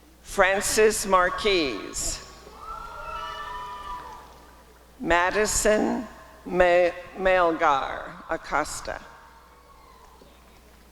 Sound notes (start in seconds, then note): 1.4 applause and cheering; 6.6 applause and cheering